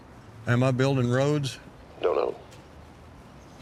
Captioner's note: on phone